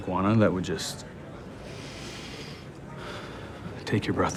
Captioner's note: deep inhale